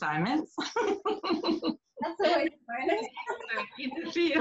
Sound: laughs

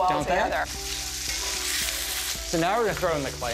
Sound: sizzling

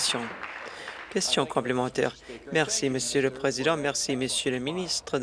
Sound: applause

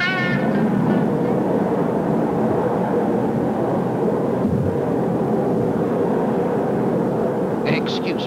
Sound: rumbling

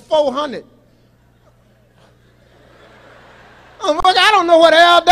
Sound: audience laughs

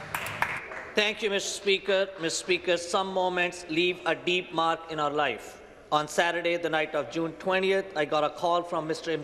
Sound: some Applause

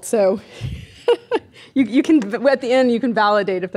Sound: laughing

